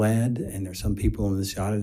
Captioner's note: faintly speaking